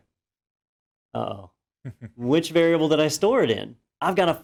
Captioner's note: laugh